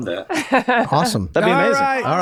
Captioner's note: laughing